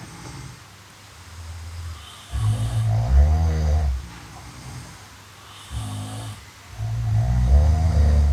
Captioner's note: loud snores